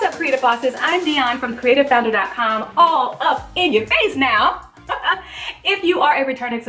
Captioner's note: laughs